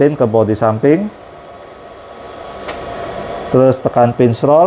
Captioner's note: PET film noise